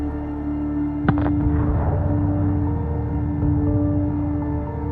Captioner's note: explosion roars